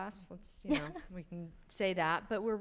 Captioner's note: chuckles